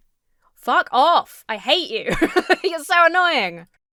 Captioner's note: laughs